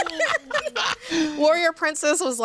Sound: laughs

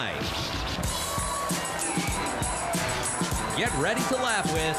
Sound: rhythmic music; audience cheers and applauds

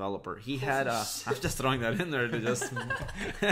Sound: laughing

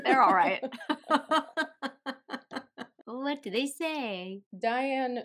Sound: laughter

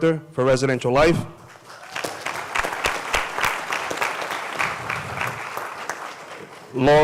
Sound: applause

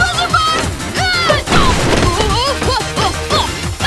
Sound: yelling; groaning

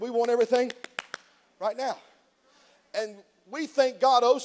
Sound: snaps fingers

